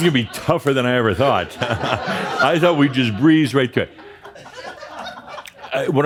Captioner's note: more laughter